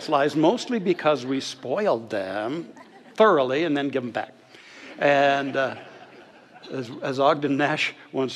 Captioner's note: audience laughter